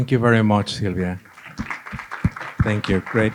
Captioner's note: applause